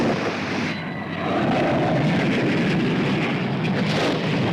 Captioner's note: planes roaring